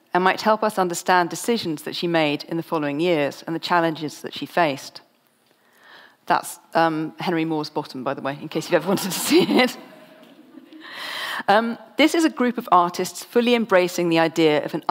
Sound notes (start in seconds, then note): 8.8 audience laughs; 8.9 laughs